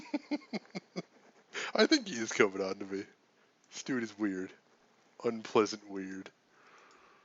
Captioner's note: laughs